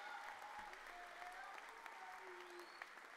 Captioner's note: cheers and applause